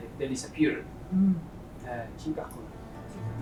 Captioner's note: non-english speech; acoustic guitar music